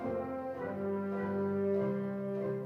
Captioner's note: none